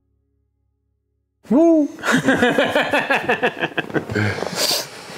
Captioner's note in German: Gelächter